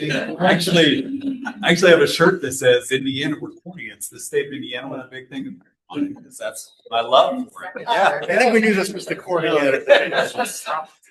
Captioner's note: laughter